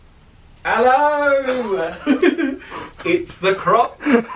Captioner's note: chuckles